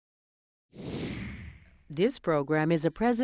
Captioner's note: whooshing